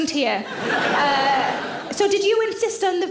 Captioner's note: audience laughs